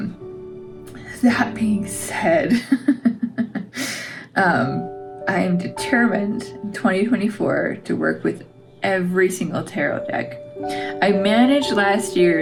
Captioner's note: laugh